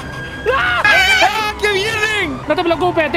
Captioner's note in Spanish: gritan